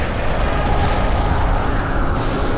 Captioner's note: explodes